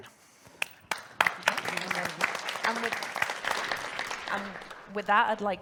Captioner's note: audience applauds